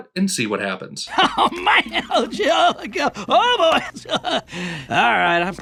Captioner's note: laughs with joy